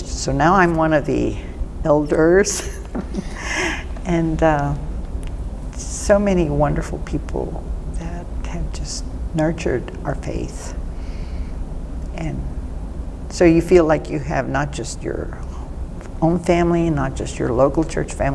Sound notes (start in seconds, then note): 2.5 laughs